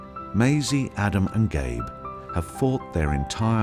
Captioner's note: enchanting piano music; voiceover